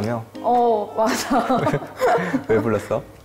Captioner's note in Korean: 웃음